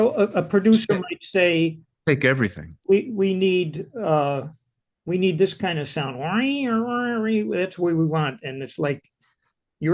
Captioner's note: hums